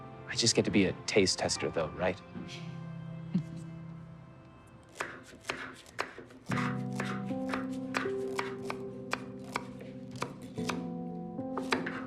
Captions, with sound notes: - I just get to be a taste tester though, right? (chuckles) (soft music)